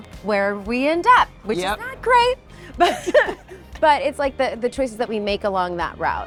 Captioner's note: chuckles